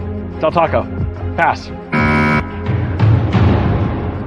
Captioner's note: buzzer sounds